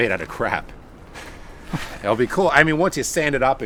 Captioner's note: laughs